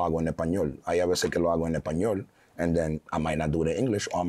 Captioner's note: speaking foreign language